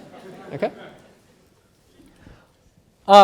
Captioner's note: laughter